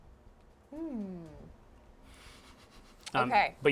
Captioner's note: laughs